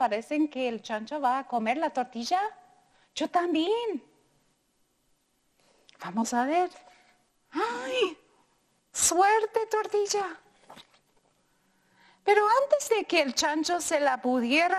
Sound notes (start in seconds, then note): 7.5 gasps; 7.6 speaking in foreign language